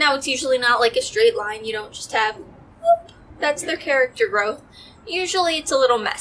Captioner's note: whoop